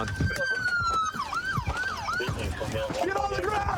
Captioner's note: sirens wailing